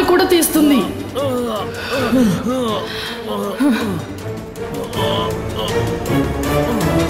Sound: groans

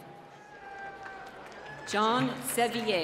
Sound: applause

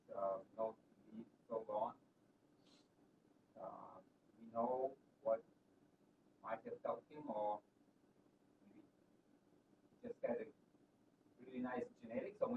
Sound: off microphone

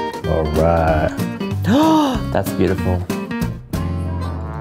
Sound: gasping

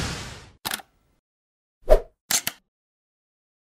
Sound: click sound

